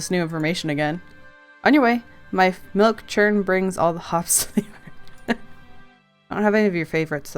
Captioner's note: laughs